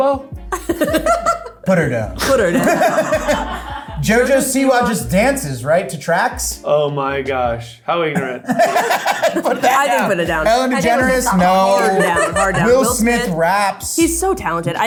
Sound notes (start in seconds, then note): 0.1 laughing; 2.1 crew laugh; 8.1 laughs